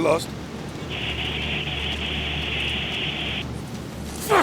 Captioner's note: the radio crackles with static